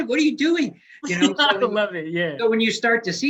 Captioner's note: laughs